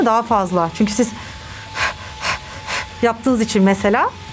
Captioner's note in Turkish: Nefes alıyor